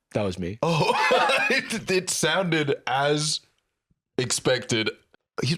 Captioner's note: laughs